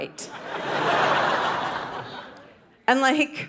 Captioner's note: audience laughing